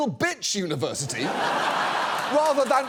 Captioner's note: studio audience laughs